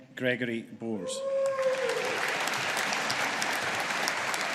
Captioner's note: audience applauding